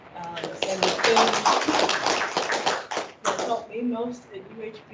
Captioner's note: clapping